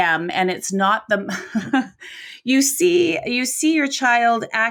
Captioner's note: laughs